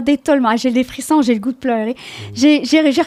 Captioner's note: in french